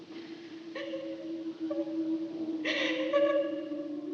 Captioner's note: sobbing continues